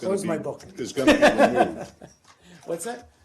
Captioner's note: laughter